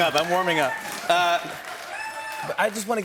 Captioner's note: cheers and applause